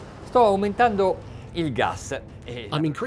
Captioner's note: speaking in a foreign language